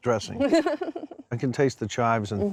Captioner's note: giggling